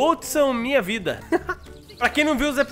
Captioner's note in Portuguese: risos